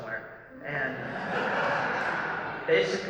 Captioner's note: laughter